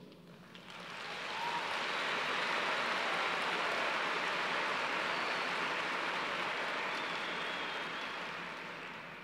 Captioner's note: cheers and applause